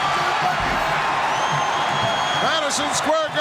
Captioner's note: Paul shouting angrily